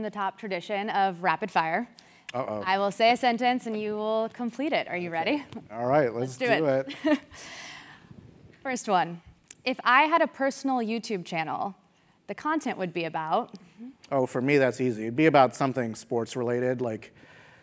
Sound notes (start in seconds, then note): 7.0 laugh